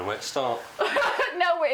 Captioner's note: laughter